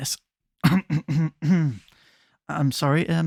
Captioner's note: clears throat